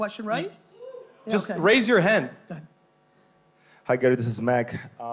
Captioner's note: whoop